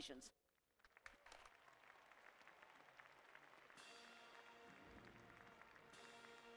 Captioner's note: applause; band playing processional